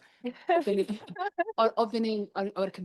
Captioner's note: chuckles